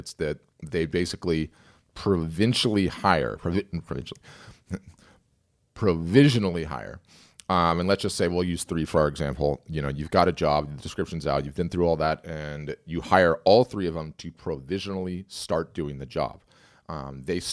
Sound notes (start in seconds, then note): 4.6 chuckles